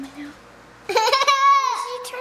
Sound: laughter

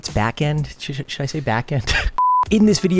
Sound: beep

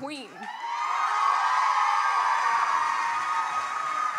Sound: audience cheers and applauds

